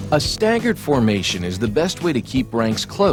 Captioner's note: voiceover